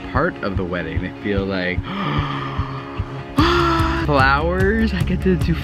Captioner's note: gasping